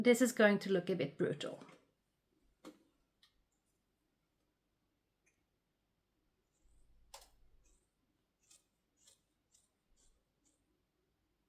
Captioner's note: cutting sounds